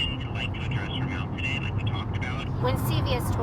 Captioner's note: person speaking over telephone